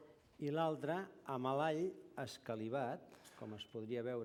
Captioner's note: non-english speech